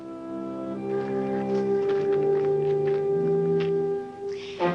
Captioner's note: dirt pounding